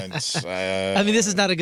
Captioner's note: laughing